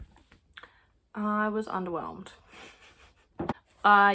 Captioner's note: chuckle